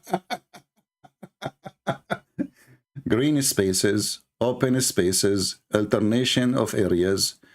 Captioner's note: Ketawa